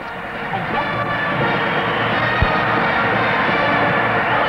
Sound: crowd cheering

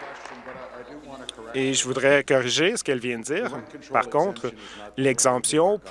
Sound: applause and cheering; applause

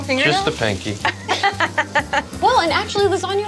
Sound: laughs

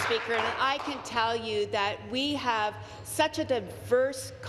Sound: applause

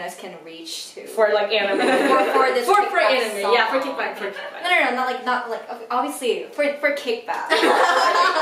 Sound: panics

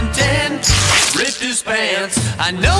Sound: rips fabric

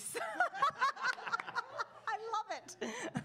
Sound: attendees laugh

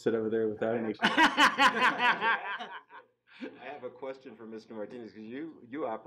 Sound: laughing

